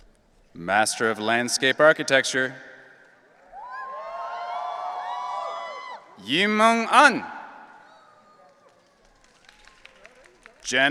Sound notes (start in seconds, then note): 3.4 audience cheering; 8.0 audience applauding